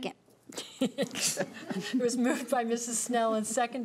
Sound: laughing

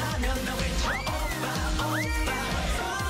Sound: cheering

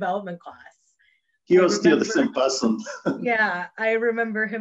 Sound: chuckles

